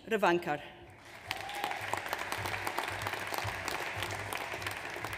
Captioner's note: audience applauds